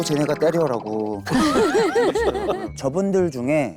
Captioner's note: laughing